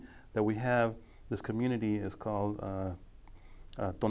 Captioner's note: speaking foreign language